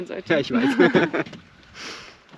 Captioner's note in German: beide lachen